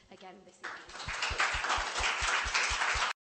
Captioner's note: applause